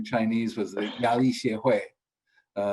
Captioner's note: speaks in foreign language